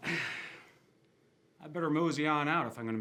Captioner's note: sighs